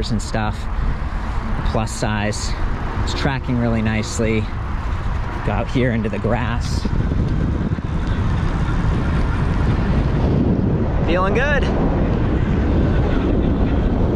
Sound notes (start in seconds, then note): 6.9 wind gushing